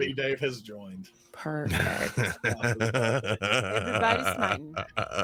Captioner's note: laughing